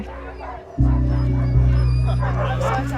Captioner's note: dogs barking